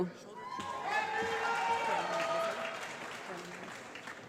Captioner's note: applause